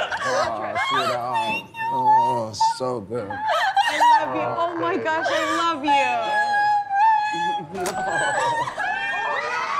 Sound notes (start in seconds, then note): 0.2 squeals and cries; 5.2 squeals unintelligibly; 7.2 family cheers; 7.7 door opens